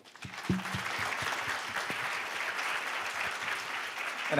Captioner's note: applause